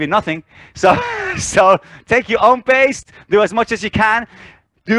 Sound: laughs

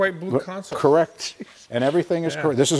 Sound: laughs

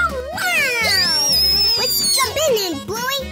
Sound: Bluey screaming with excitement

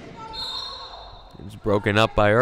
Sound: whistle blowing

